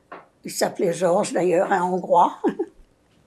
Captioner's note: laughing